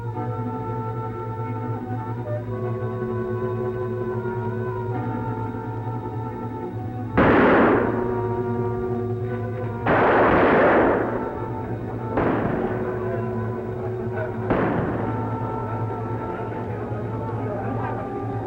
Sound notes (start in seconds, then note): 14.5 people chattering